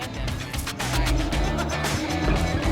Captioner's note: shakes head, laughs